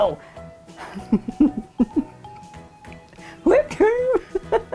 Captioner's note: laughing; laughing